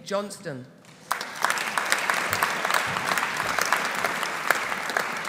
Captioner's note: audience applauding